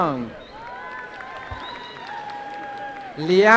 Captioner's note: applause